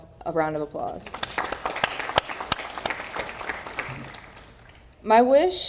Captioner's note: audience applauding